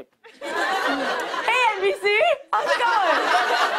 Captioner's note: laughter